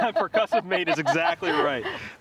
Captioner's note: chuckles